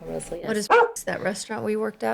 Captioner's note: bark